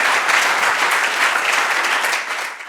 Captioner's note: audience applauds